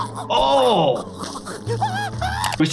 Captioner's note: Cuddles choking; Cuddles screaming